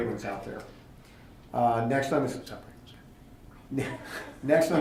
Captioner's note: whispering